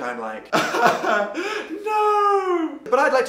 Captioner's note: crying